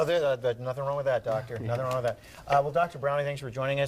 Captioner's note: chuckles